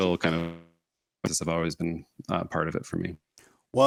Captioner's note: audio warps